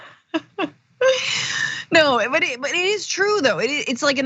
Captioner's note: laugh